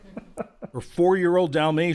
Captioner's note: laughter